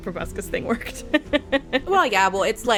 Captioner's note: laughs